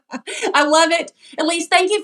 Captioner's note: laugh